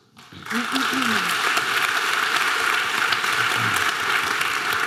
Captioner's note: audience applause